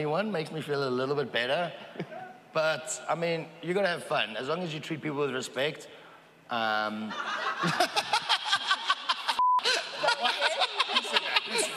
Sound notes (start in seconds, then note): 6.9 laughing